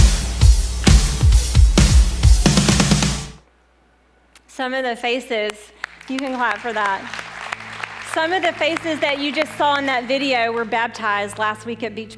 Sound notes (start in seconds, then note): 5.7 applause